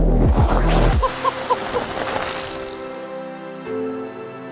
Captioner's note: bikers laugh